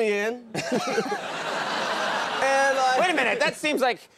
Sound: laughing

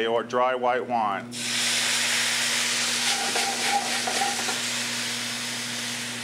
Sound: sizzling

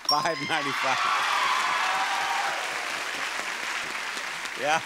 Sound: audience applauding

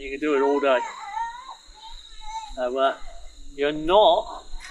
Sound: child chattering

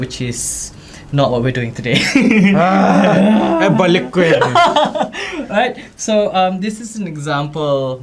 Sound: laugh

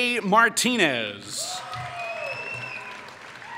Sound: applause

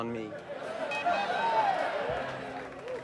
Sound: communication device calls; people in bar cheer

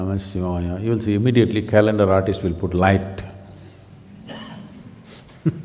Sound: laughs

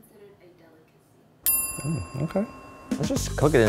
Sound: bell dinging

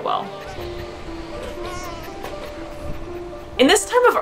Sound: background music; pinniped vocalizations

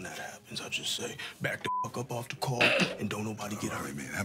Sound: beep

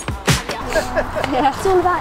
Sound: laughter

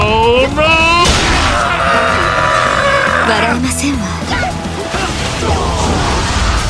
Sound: KO Scream

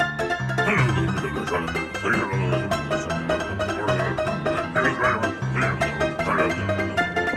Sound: mumbling and grumbling

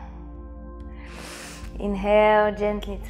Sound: inhales

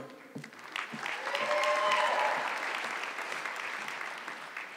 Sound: audience clapping

